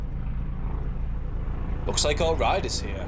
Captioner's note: helicopter approaching